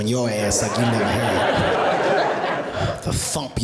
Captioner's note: audience laughing